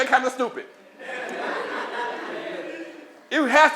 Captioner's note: laughter